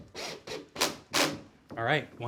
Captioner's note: drill rattles